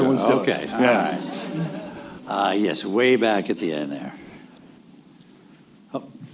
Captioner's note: laughter